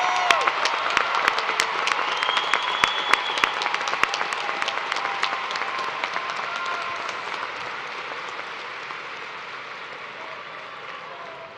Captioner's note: cheers and applause